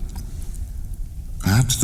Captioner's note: cave noises